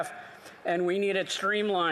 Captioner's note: none